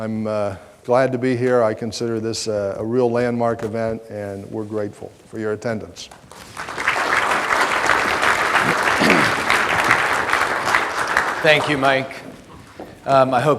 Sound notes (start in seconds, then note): 6.1 audience applause